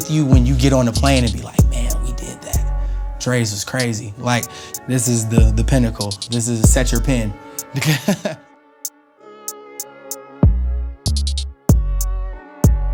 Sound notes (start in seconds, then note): 7.6 laughs; 9.5 mellow music